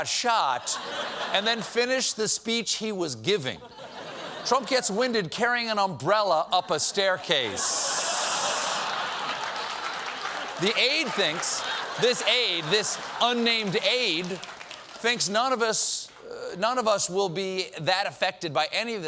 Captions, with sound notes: GIVING. TRUMP GETS WINDED CARRYING AN UMBRELLA UP A STAIRCASE. ( LAUGHTER ) ( APPLAUSE ) THE AIDE THINKS-- THIS AIDE-- THIS UNNAMED AIDE, THINKS NONE OF US-- NONE OF US WILL BE THAT AFFECTED BY ANY OF THIS,